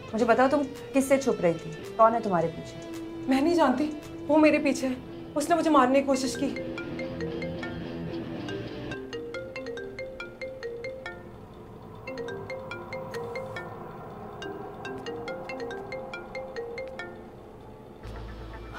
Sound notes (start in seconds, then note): 6.3 phone ringing